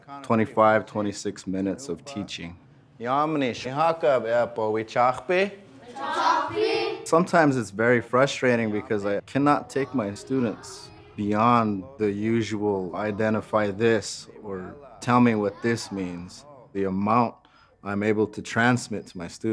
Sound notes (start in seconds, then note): 3.3 speaking Lakota; 5.5 students speaking Lakota